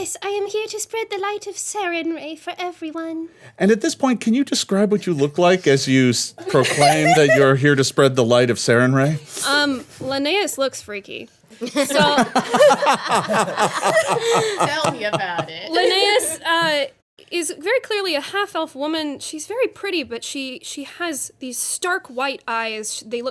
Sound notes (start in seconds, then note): 11.6 everyone laughing